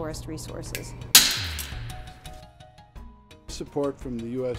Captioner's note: wood beam SNAPS